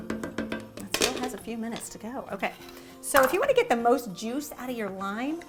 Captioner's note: none